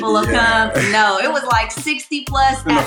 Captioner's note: laughs